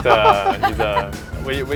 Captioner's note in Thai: หัวเราะ